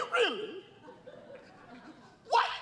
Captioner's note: laughter